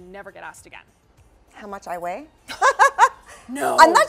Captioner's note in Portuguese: risos